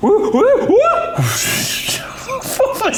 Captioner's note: laughing